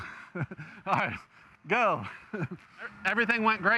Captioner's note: chuckles